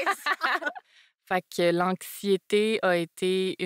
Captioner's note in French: rires